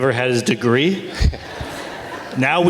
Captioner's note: audience laughs